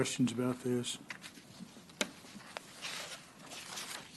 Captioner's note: rustling of papers